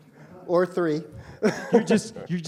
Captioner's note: laughs